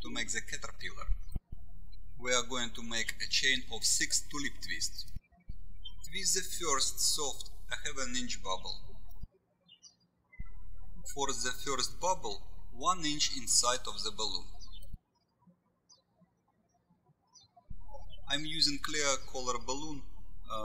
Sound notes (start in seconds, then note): 9.6 bird chirping